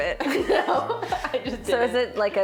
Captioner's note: laughing